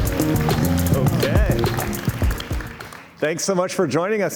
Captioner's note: cheers and Applause